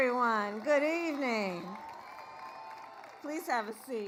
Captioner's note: applause